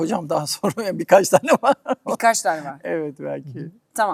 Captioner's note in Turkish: kahkaha